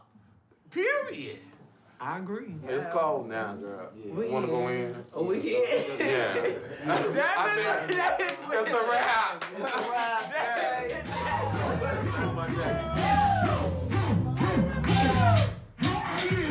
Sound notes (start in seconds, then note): 5.6 laughter; 10.6 lively music